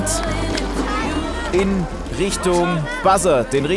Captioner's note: Anfeuerrufe